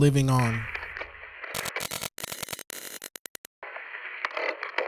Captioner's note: electricity buzzing